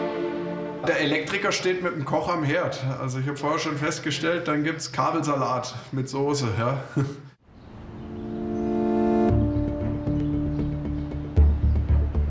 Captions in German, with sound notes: Der Elektriker steht mit dem Koch am Herd. Also ich hab vorher schon festgestellt, dann gibt es Kabelsalat mit Sauce. (Er lacht.) (Spannungsgeladene Musik)